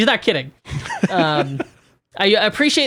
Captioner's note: laughing